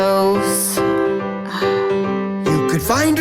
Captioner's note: sighs